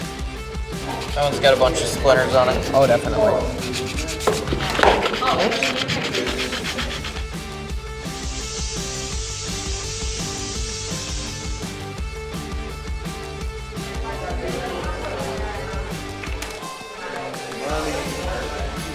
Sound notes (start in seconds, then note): 3.8 sand paper scratching; 8.2 spray can hissing